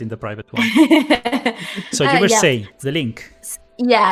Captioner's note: laughs